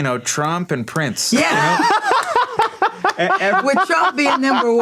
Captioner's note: laughs